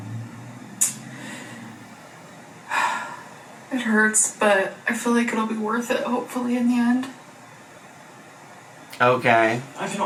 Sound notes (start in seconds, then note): 2.9 sighs